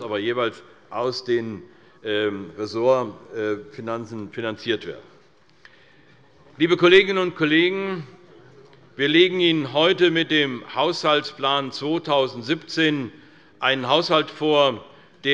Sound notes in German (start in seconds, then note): none